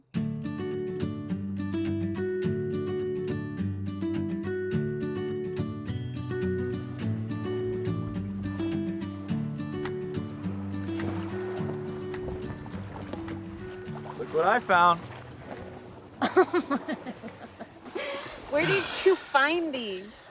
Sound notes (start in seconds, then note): 0.1 gentle music; 6.9 waves crashing; 16.2 Summer laughs